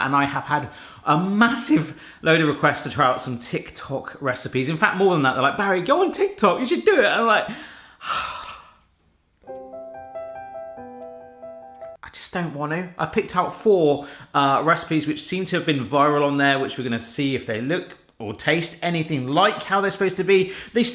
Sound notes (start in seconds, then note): 7.6 sighs; 9.4 soft music